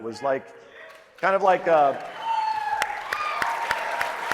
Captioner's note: applause